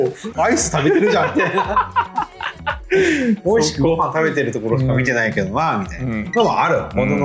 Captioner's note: laughs